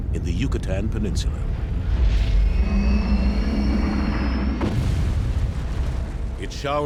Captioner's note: dinosaurs screeching and rumbling